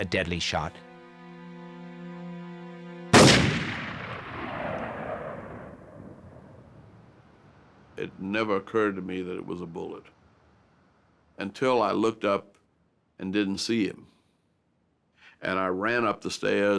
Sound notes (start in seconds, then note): 3.1 gunshot